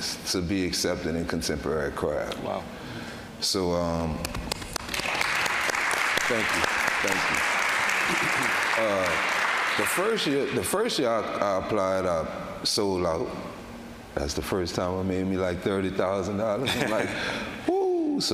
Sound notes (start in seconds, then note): 4.5 audience applauding